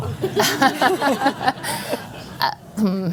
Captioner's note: laughter